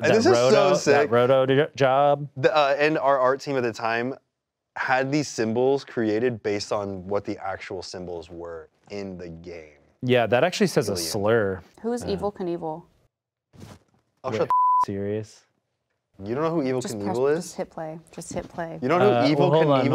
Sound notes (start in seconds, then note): 14.4 beep